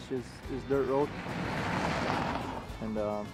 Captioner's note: tires crunching